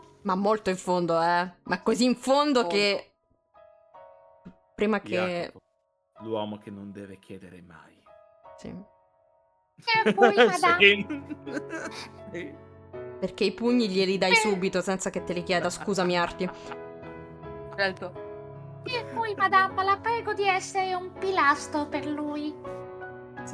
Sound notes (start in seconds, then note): 9.9 laughing